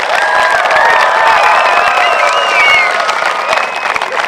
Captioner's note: applause